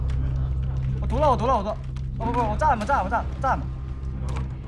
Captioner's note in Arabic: صياح على سماعة الرأس